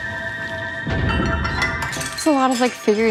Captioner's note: ceramic clanging and breaking